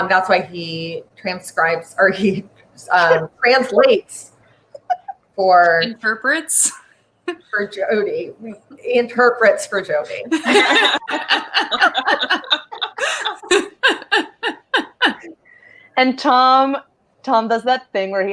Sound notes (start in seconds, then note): 10.2 all laugh